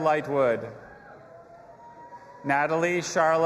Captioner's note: audience applauding and cheering